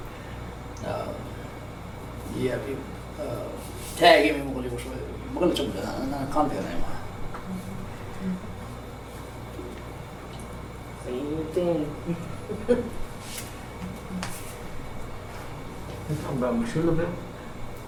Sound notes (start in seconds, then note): 12.0 laughing